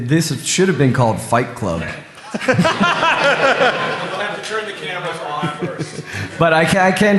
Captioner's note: laughter